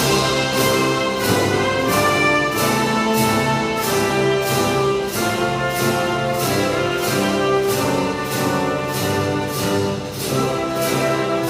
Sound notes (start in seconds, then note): none